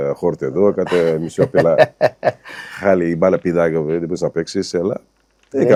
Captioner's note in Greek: γέλια